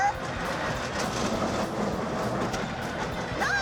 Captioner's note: machine grinding sound